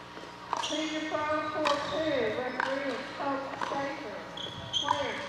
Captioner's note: muffled voice over the sound system